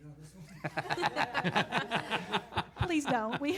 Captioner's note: laughs